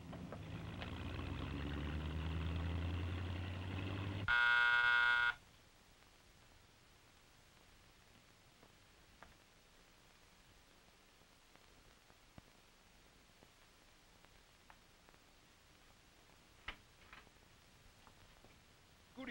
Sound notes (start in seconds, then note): 0.0 car rumbling; 4.2 doorbell buzzing